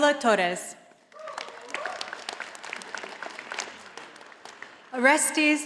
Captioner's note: audience applauding